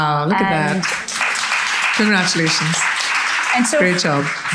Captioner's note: audience applauding